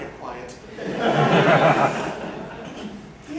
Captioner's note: laughter